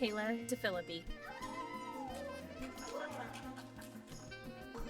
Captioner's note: applause